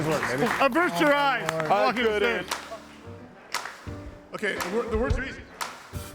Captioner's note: group chattering